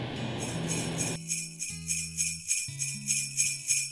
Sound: sleigh bells

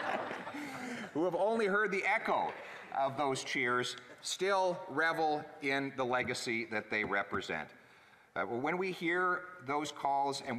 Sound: laughter

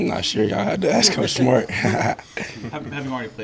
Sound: laughs

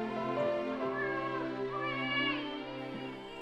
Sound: baby crying

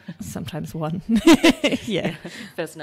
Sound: laughs

